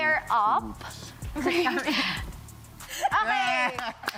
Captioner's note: giggles